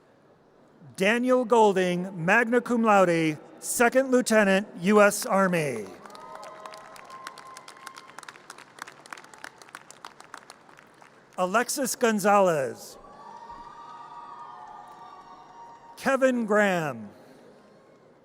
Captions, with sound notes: Daniel Golding, magna cum laude, Second Lieutenant, US Army. (audience cheers and applause) Alexis Gonzalez. (audience cheers) Kevin Graham.